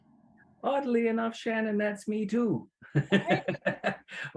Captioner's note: laughs